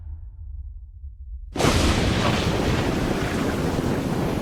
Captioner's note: roar of thunder